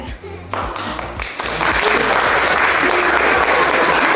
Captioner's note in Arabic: ضيوف يصفقون